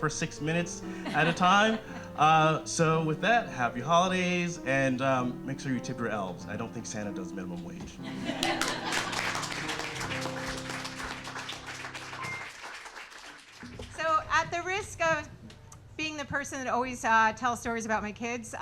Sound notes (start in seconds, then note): 0.7 audience laughing; 8.1 audience laughing and clapping